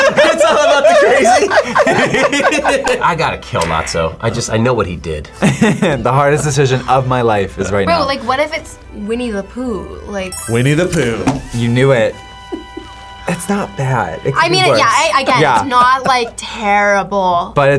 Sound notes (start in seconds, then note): 0.0 group laughs; 5.4 laughs; 12.5 React laughs